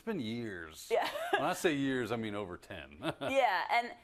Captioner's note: laugh